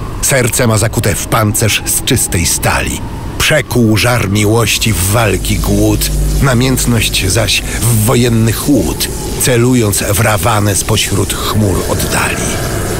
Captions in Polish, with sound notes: serce ma zakute w pancerz z czystej stali. Przekuł żar miłości w walki głód, namiętność zaś w wojenny chłód. [odgłos iskrzenia] Celując w Rawanę spośród chmur oddali.